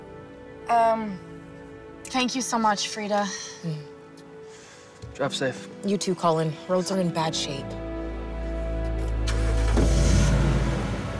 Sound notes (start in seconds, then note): 8.8 car engine starts